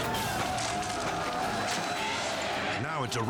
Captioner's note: people shouting; hits thudding